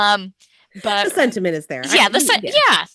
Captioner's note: laughs